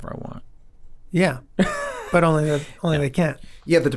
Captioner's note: Rob laughs